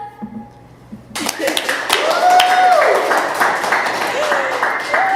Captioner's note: audience applauding